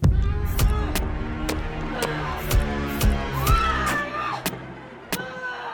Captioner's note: tense music; Rose screaming